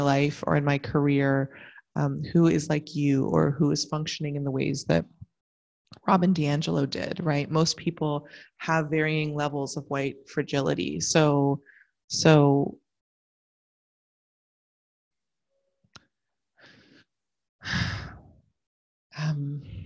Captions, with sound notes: or in my career who is like you, or who is functioning in the ways that Robin DiAngelo did. Most people have varying levels of white fragility. (sigh)